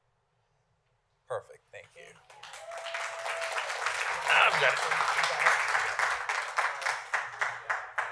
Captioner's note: applause